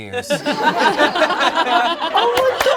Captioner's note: all laugh